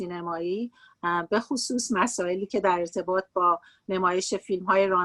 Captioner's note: speaking Farsi